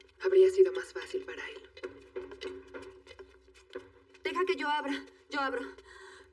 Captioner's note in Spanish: Tocan la puerta